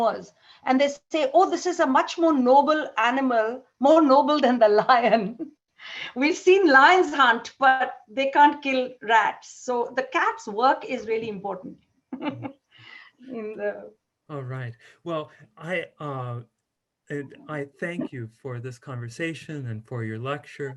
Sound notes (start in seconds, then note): 12.1 chuckles